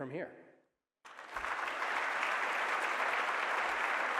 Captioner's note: applause